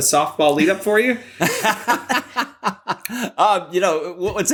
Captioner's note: laughter